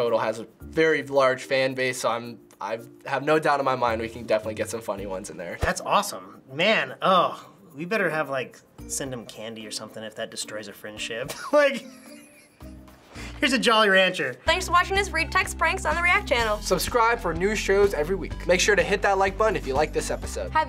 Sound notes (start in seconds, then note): 11.3 laughs